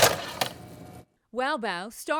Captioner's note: machine clinks